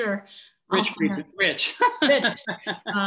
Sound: laughing

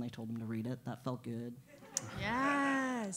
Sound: laugh

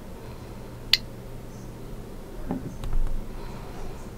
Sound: geiger counter clicks

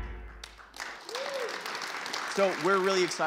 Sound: audience applause

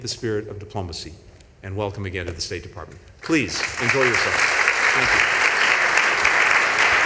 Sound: applause

